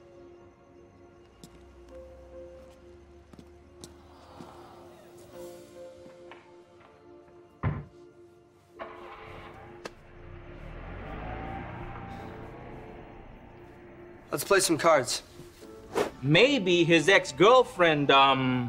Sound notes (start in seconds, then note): 7.6 door shutting; 8.7 car starting up; 10.5 car leaving